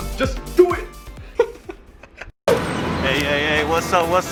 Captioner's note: laughs